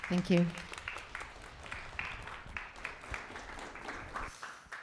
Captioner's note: audience clapping